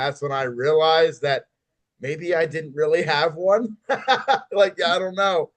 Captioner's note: laughs